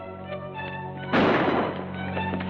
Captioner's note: gunshot